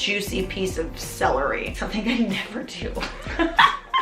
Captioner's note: laughs